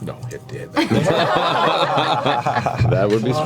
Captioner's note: all laugh